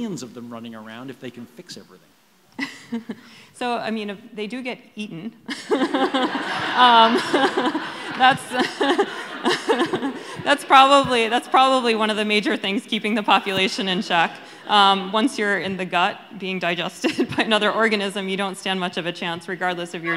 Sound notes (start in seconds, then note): 5.4 laughter